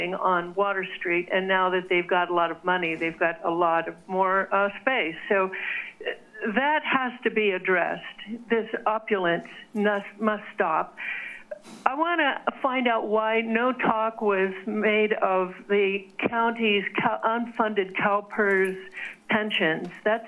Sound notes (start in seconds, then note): none